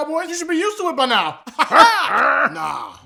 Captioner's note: Eagles and Commies laughing